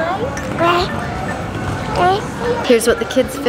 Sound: babbling

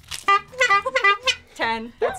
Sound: honking

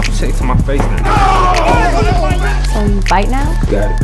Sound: yelling

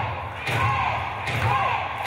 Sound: crowd

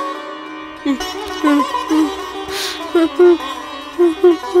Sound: crying

